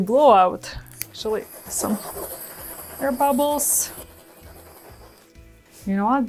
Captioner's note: blower hissing